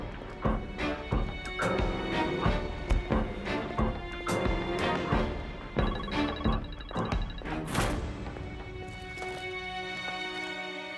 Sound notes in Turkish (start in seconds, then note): 5.8 Telefon çalıyor